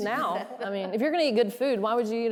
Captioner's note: all laughing